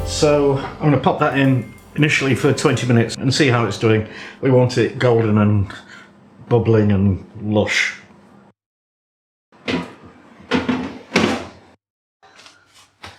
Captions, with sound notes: So I’m going to pop that in initially for 20 minutes and see how it's doing. We want it golden and bubbling and lush. [ SLAM ]